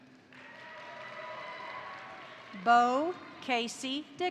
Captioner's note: crowd applauding; crowd cheering